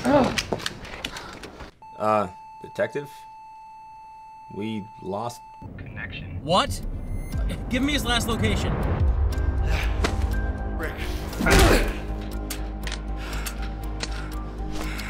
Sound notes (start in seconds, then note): 1.8 flatlining beep; 11.6 smacking; 12.6 gun clicking